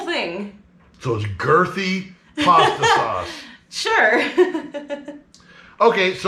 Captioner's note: laughing